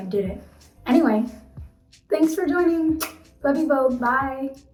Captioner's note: lip smacking